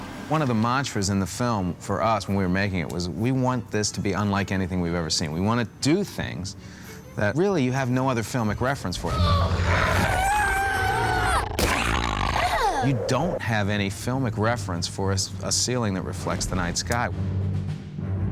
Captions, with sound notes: One of the mantras in the film for us when we were making it was... ...we want this to be unlike anything we've ever seen. We want do things that really you have no other filmic reference for. [GRUNTING AND YELLING] [SNORTS] You don't have any filmic reference for a ceiling that reflects the night sky.